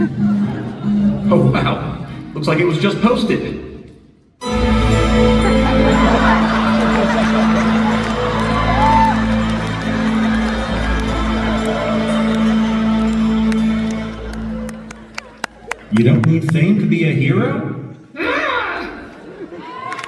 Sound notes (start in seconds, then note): 6.2 audience laughter; 10.1 applause